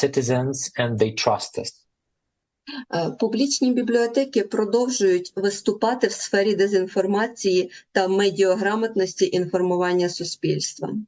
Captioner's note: foreign language